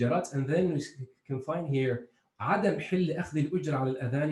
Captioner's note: speaking in foreign